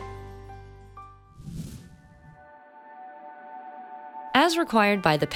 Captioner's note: air whooshing